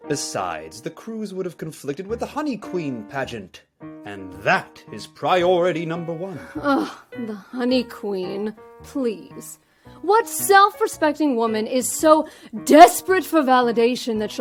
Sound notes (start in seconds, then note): 7.1 scoffs